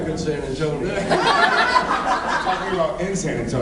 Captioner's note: laughs